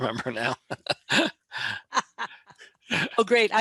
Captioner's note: laughing